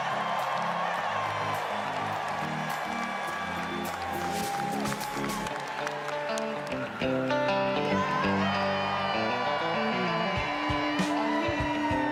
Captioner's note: cheers and applause